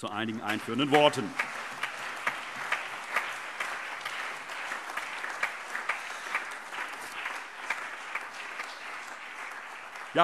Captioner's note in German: Allgemeiner Beifall